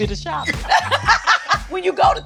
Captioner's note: both laugh